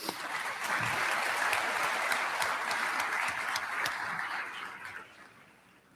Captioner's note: applause